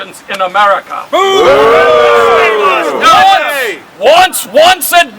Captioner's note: crowd